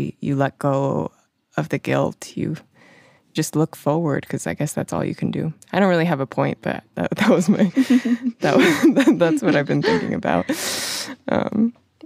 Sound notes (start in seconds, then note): 7.2 both laugh